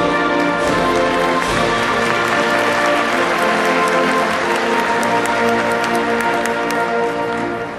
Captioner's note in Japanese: 拍手